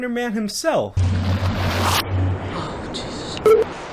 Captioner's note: eerie wind whirling